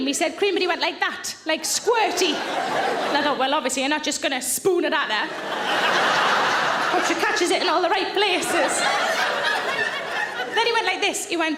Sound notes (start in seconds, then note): 2.0 audience laughing; 5.2 audience laughing